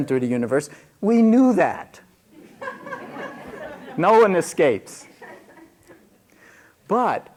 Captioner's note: laughter